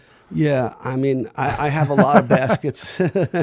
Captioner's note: laughing